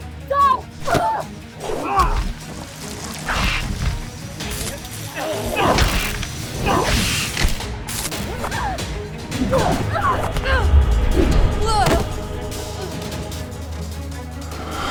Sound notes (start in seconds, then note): 1.6 grunting; 4.7 zapping; 9.4 grunting; 9.7 dramatic orchestral music